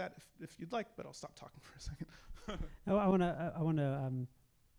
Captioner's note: laughs